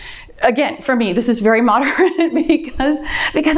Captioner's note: laughs